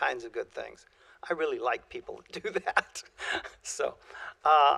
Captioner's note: laughter